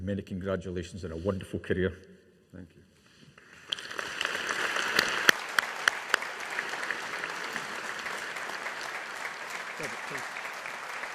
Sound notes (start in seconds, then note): 3.4 audience applauding